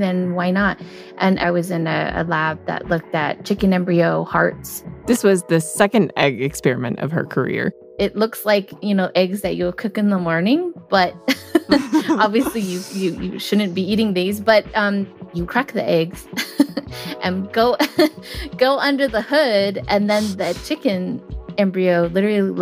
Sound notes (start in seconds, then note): 11.2 both laugh; 17.1 laughs; 20.1 laughs